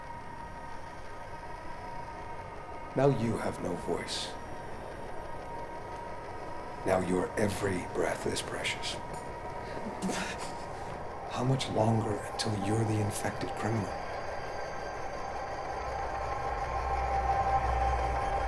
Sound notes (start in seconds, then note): 9.0 sputters air